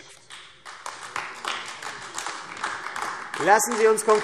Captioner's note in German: Beifall AfD